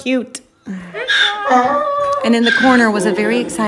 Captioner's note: laughs; goats bleating